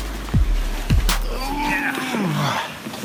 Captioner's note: grunts